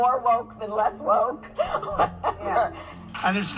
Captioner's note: laughing